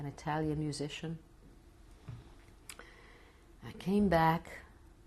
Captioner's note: pauses for 3 seconds